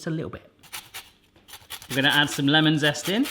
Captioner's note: metal scraping